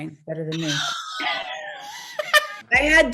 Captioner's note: laughing